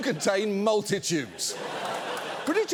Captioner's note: audience laughs